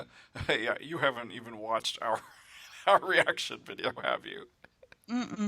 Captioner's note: laughing